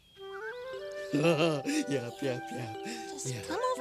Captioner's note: laughing